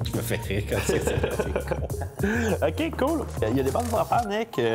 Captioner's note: laughing